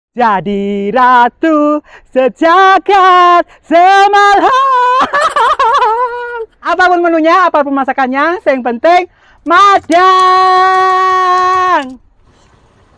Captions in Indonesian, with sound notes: Hai Jadi Ratu Sejagad se malam (ketawa) Apapun menunya apa masakannya yang penting makan